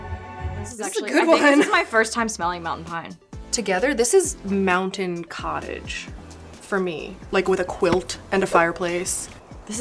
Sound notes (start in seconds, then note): 6.2 quilt thudding; 8.9 fireplace whooshing